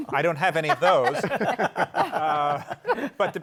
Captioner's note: laughter